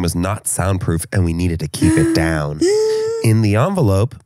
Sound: gasps

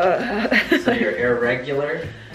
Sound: laughs

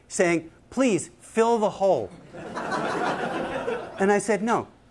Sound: laughter

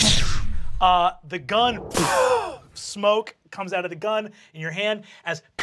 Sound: mimics explosion

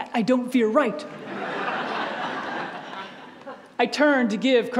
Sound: audience laughs

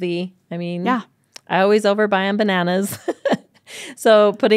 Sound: laughs

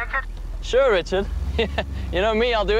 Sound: chuckles

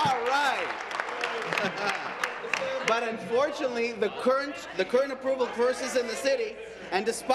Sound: applause

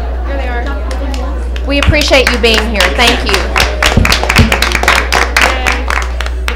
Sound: applause

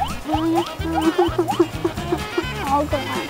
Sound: grunting

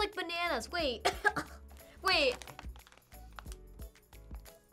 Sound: coughs

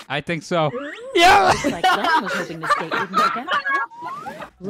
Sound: laughter

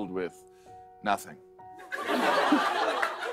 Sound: laughter

